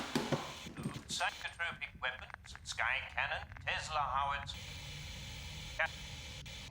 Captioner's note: statics